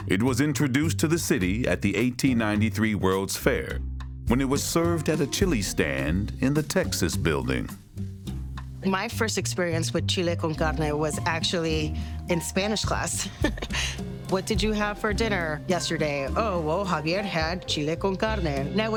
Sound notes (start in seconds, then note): 13.2 laughing